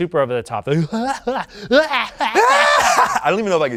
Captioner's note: cackles